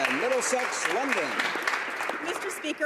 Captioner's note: applause